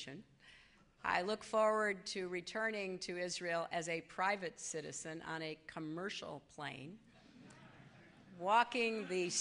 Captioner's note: laughter